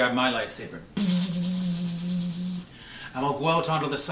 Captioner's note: imitating lightsaber